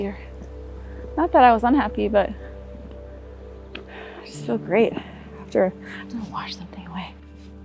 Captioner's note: whispers